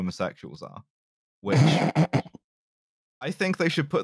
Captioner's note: snort-laughs